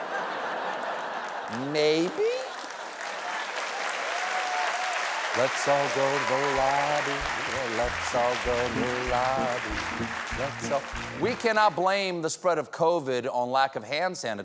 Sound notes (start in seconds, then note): 6.7 cheers and applause